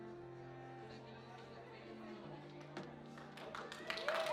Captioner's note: audience chattering; audience applauding